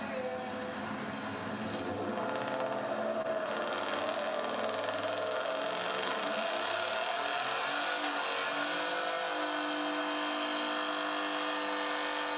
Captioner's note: truck revving engine